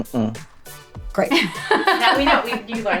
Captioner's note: laughing